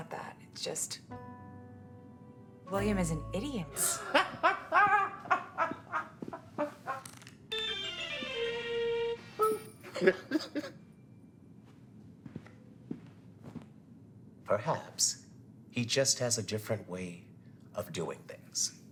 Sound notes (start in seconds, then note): 3.9 Mr. Kriss laughing; 7.6 upbeat music; 9.9 laughing